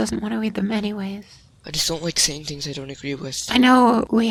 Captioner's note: quietly